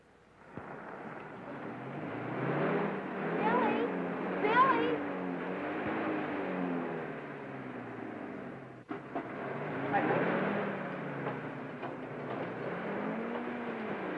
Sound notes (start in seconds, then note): 0.8 car revving